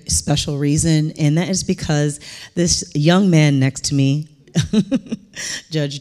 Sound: chuckling

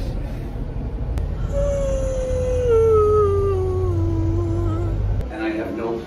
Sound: musical yawn

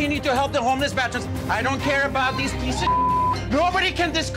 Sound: beep

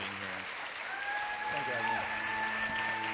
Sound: audience cheering; speaking faintly

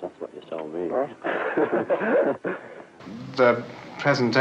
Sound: laughter

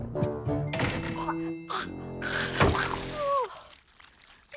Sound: gagging

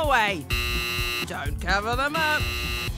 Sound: buzzer buzzes

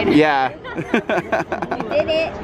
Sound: laughs

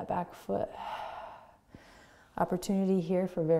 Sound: exhaling

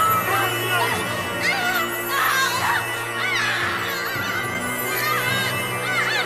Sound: man yelling; Divina screaming

